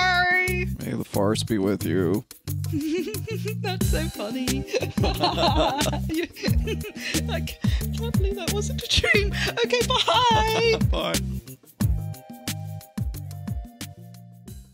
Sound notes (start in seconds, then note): 2.6 Rey giggles; 4.6 Rey and Ben giggle